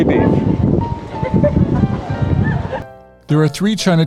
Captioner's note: women laughing